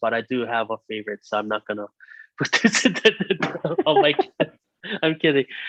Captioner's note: both laughing